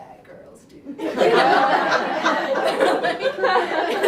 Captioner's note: laughter